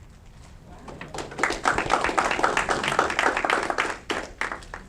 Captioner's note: audience clapping